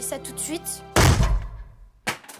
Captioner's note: punching noise